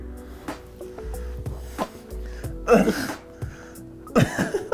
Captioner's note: laughing